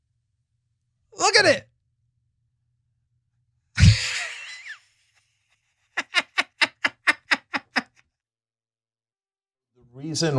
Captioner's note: laugh